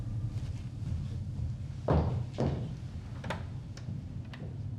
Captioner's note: footsteps thudding